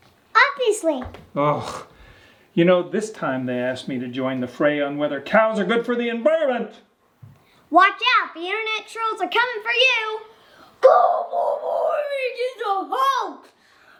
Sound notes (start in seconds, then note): 1.4 groans